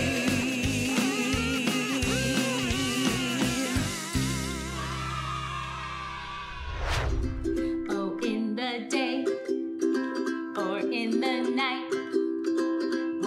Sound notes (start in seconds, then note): 4.4 children cheering; 7.3 cheerful ukulele music